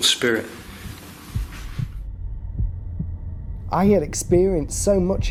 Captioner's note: heartbeats